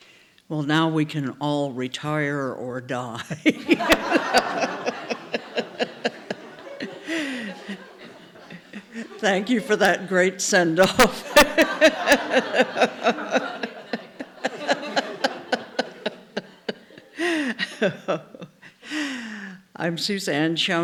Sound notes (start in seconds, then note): 3.3 laughter; 11.2 laughs